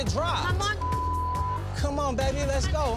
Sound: beep

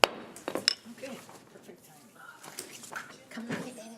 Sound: group chatter

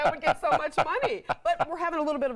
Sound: laughter

